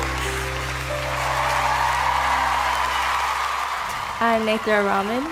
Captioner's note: singing; applause